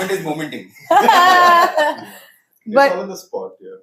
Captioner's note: laughs